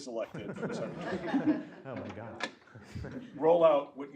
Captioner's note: laugh